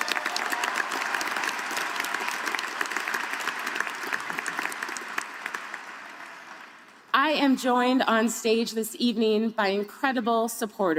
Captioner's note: applause